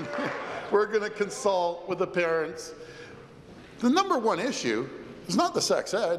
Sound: applause

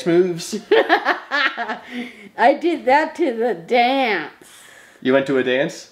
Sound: laughs

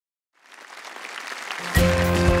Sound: applause

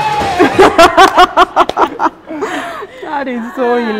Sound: laughter

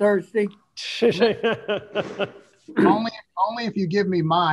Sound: laughing; throat clearing

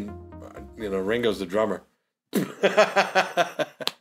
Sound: laughs

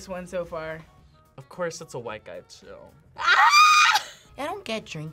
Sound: screams

